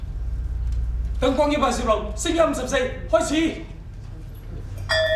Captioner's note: speaking in a foreign language; bell chimes